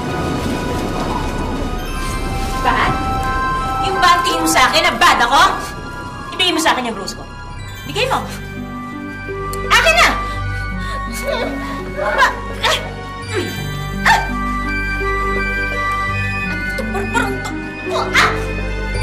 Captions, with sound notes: [wind howling] Bad? Is that what you think of me, bad? Give me my rose back. Give it. Hand it over. -[Ella whimpers] -Why you-- [grunting] What's with this butterfly? [yelps]